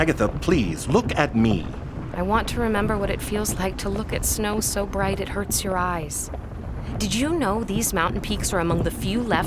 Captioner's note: calmly